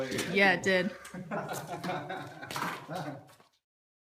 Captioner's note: electrician laughing